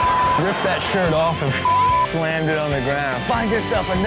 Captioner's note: beep